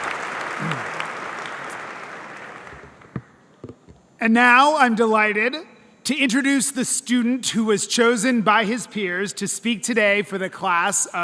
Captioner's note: applause